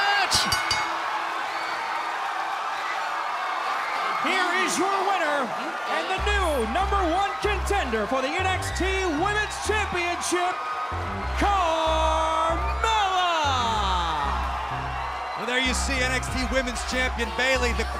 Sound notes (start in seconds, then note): 0.2 bell ringing